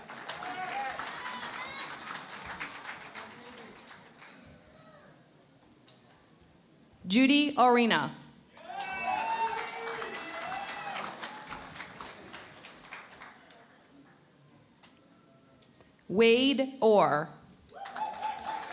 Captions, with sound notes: [ Applause ] Judy Orina. [ Cheering and Applause ] Wade Orr.